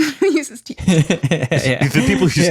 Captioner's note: laughs